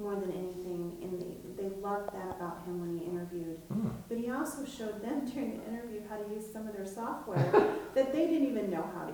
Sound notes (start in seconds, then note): 5.0 chuckling; 7.3 chuckling